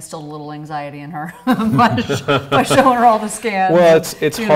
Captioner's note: laughs